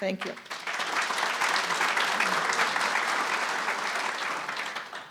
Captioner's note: audience applauding